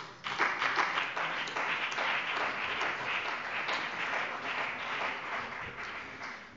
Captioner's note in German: Allgemeiner Beifall